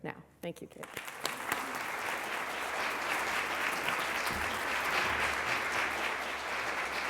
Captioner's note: applause